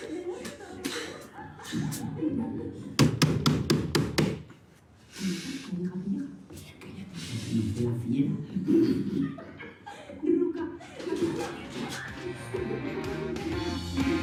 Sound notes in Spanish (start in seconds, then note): 0.0 Risas; 2.9 Golpes; 8.8 Risas; 10.8 Hablan al unísono